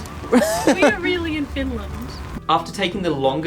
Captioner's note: laughing